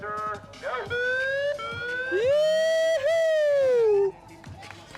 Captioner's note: megaphone siren